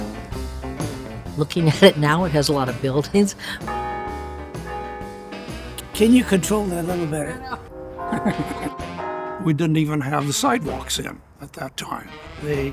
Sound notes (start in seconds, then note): 3.3 laughs; 3.7 bell ringing; 8.0 laughs